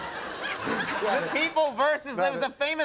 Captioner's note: Norm laughing